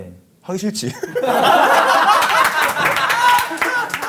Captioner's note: laughing